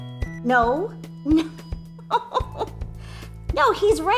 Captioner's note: laughs